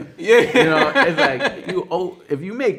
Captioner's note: man laughing